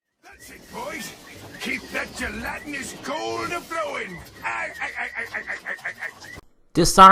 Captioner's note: laughs